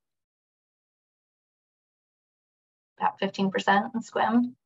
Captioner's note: silence